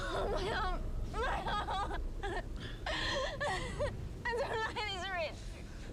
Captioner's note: sobbing; sobs